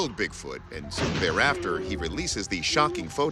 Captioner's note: gunshot; moaning